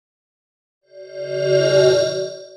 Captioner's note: swoosh